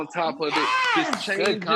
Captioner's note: applauds